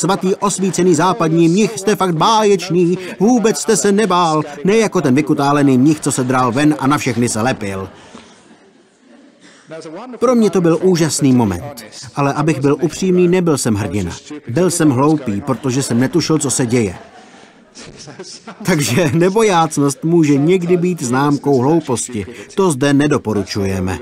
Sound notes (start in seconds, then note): 7.4 laughter